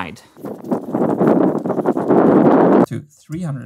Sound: wind noise

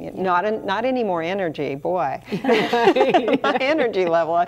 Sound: everyone laughs

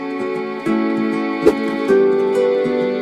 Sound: whoosh Swoosh

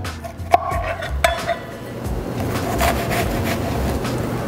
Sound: knife slicing

